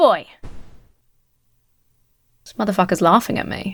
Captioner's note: rocket puffs